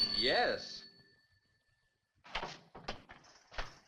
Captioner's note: phone rings